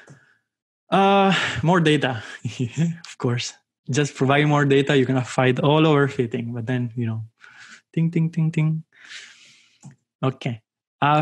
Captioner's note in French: rires